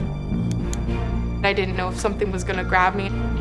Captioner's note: torch clicks